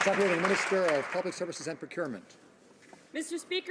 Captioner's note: some Applause